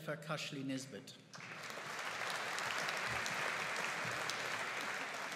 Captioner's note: audience applauding